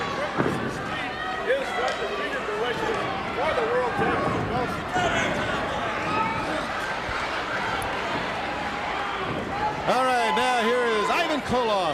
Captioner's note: crowd chatter